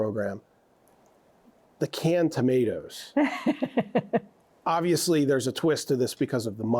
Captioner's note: laughs